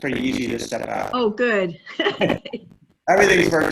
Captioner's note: laughing